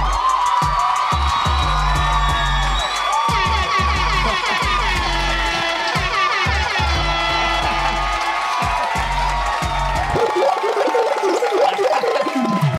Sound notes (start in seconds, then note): 0.3 audience applauds; 3.2 air horn blows